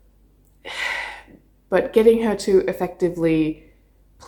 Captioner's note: sighs